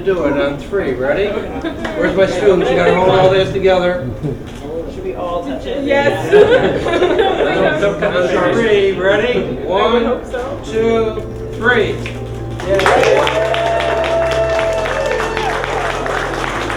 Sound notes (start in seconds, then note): 6.1 laughter; 12.3 applause